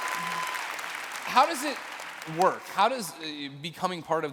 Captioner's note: applause